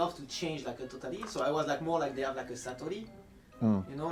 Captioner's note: dialect